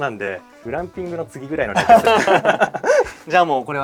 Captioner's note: laughs